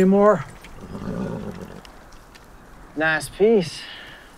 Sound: horse nickers

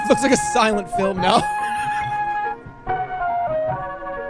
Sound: laughs

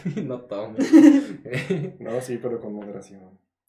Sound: laughter

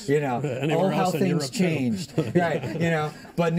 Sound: laughter

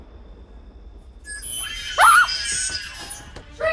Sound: shrieker sounds

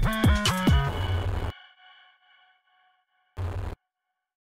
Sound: static buzzing

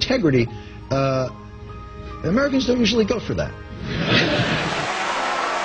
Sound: laughter

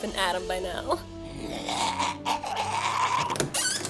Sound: grumbling

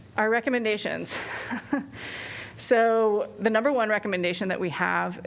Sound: laughter

